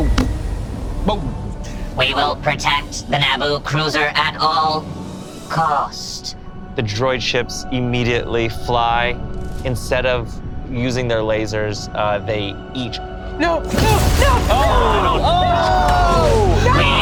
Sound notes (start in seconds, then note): 13.7 explosion booms